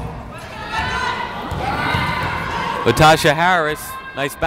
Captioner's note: yelling